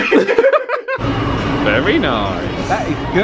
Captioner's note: both laugh